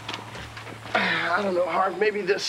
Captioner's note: Evan sighing